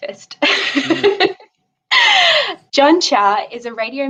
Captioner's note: chuckles